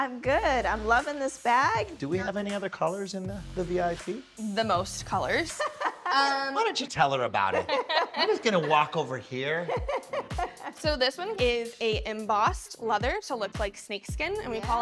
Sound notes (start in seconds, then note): 5.4 laughs; 7.4 laughing; 9.6 laughs